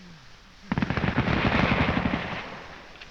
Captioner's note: firing continues